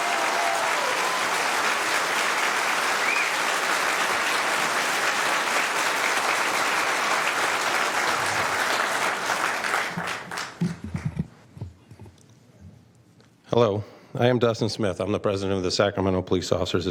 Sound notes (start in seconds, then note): 5.3 cheering/Applause